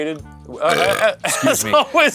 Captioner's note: burping; laughing